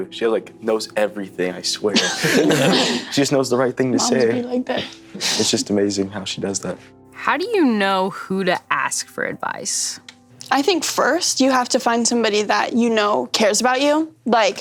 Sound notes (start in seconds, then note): 1.9 all laughing